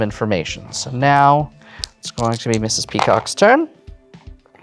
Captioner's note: dice rattling